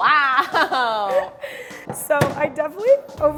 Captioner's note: laughter